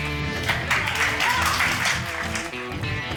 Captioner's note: cheering, applause